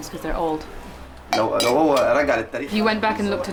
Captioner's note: non-english speech